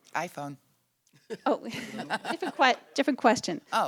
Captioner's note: laughter